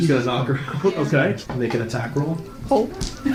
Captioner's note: laughs